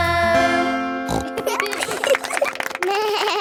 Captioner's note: snorts; laughing; bleats and laughs